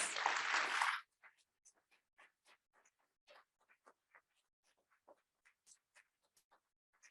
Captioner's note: audience applauding